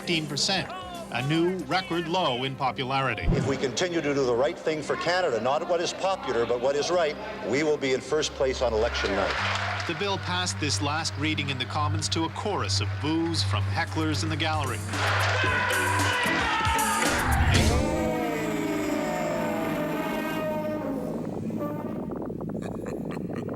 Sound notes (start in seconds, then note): 17.3 yelling, booing; 23.3 low cackle